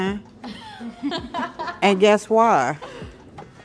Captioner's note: laughter